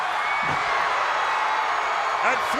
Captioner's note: crowd cheering